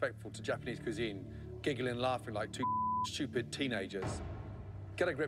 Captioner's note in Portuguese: bip